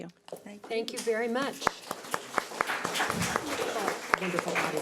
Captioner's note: audience applauds